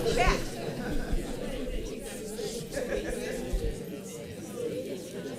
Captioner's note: audience chattering